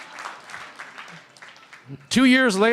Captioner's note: shouting; cheering & Applause